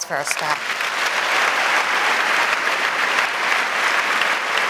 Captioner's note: audience applauding